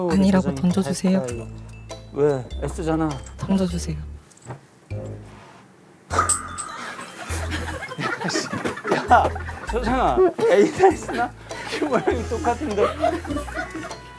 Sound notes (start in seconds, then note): 6.1 clatter